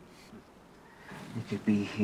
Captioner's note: birds chirping